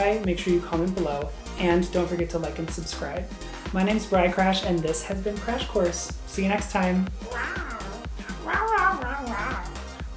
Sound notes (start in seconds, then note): 7.2 roaring